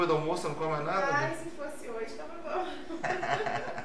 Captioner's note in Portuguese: risos